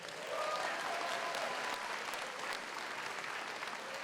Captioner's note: audience applauds